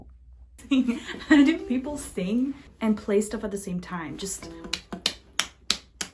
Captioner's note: applause